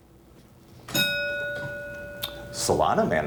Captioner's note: ding